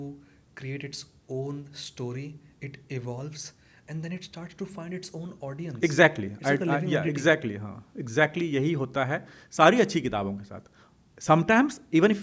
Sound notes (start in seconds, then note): 9.5 hindi